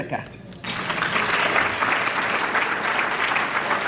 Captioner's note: applause